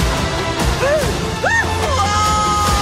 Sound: screaming

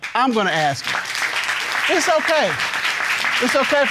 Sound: audience clapping

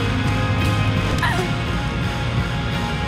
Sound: woman grunts

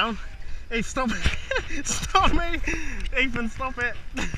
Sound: laughs

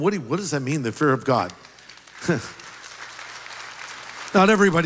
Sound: applause

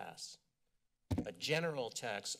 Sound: mic thud

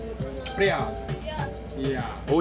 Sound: dink

